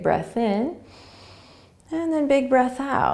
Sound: inhaling

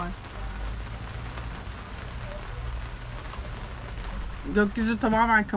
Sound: rain Sound

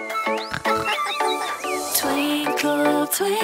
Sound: birds chirping; laughing

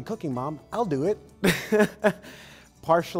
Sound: laughing

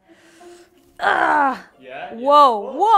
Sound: grunts

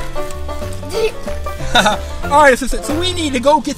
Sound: laughter

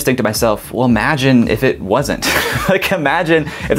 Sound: laughs

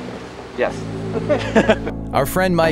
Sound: laughs

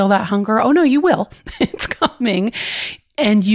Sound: laughs

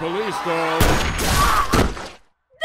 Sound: gunshot

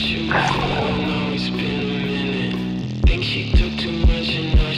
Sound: water splashing drowns out lyrics

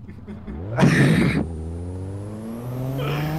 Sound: wheeze

